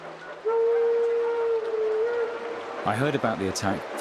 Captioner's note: train horn honking